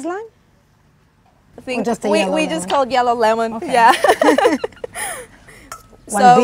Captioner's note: laughs